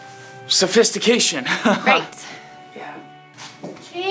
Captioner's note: laughs